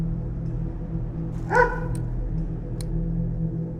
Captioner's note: dog barks